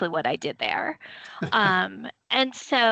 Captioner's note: chuckling